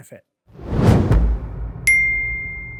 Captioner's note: logo whooshing; bell dinging